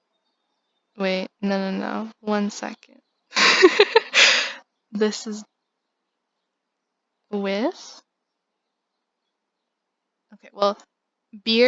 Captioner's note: laughs in dumb